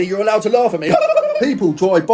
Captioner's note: laughing crazily